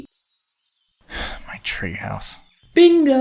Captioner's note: deep sigh